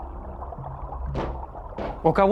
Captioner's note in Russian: приглушённые стуки